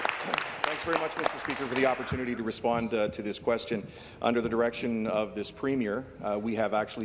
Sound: applause

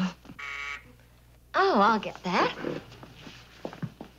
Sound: buzzer

